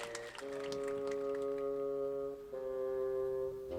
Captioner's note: crowd clapping and cheering